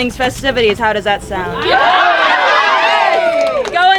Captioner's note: audience cheering